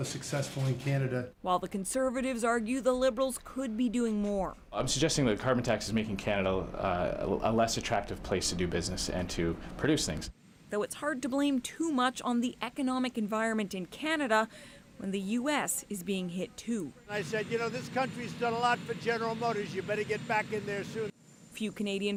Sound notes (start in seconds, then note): none